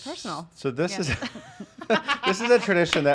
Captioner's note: laughing